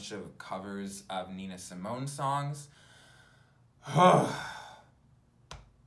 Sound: sighs

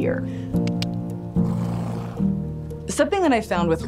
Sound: gentle clicking; horse harrumphing

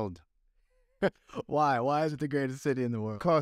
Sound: laughter

